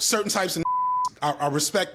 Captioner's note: beep